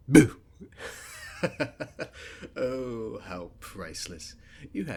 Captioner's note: laughter